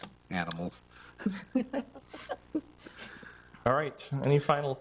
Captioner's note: people chuckle